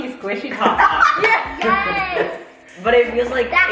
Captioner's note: family laughs